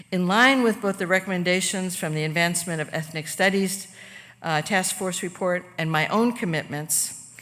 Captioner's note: none